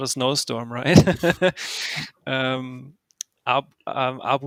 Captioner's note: laughs